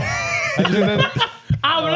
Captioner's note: laughing